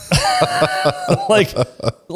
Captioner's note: laughs